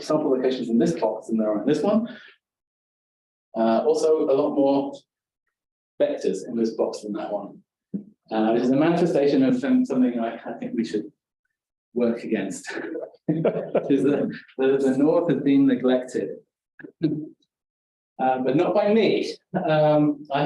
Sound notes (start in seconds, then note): 13.3 audience chuckling